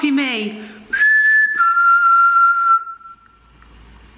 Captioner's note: whistling